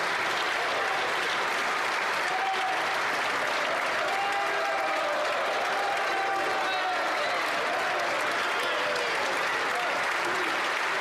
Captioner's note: some Applause